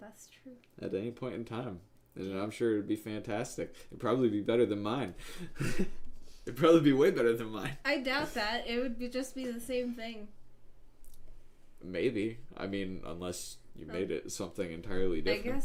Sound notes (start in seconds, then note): 5.3 laughing